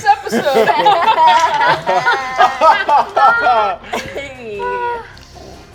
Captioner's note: players laughing